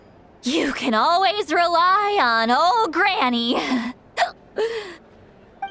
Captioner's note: hic